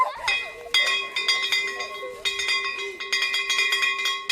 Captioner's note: bell ringing